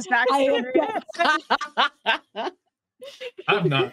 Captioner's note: laughs